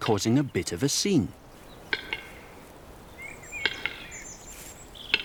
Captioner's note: bird makes clicking sound